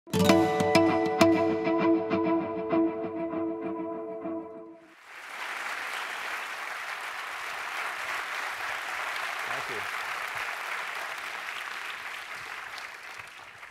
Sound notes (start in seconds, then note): 4.8 applause